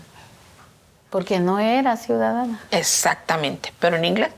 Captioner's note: speaking in Spanish